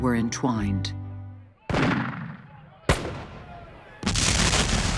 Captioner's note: guns firing, men shouting